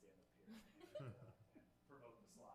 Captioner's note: members laughing